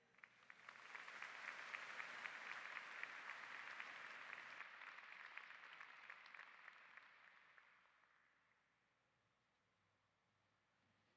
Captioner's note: applause